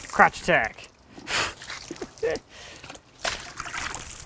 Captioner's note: water splashing